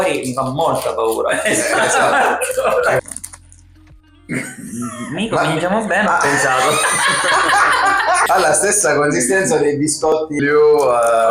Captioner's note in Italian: risate